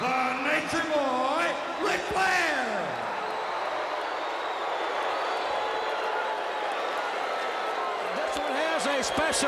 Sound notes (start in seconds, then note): 2.9 crowd cheering